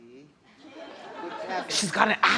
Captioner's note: audience laughs